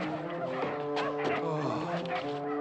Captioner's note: sighing